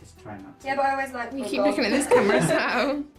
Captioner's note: laughing